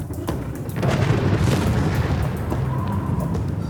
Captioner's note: thunder booms, wind howls